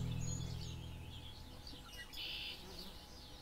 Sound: birds chirping

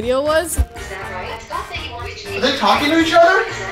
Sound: laptops chatting over each other

